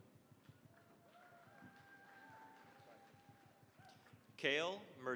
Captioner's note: cheering, applause